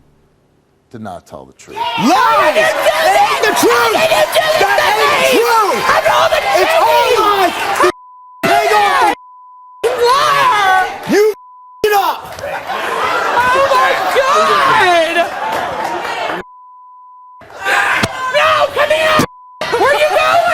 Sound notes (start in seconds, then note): 7.6 beep; 19.3 beep